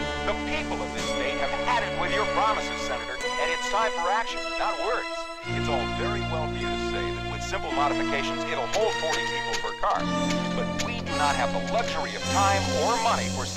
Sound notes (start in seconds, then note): 0.0 man On Radio; 5.6 man On Radio